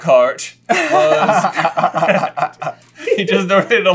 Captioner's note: laughter